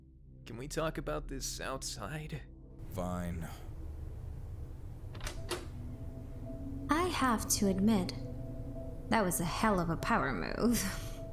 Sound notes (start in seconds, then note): 4.9 door opens, tense music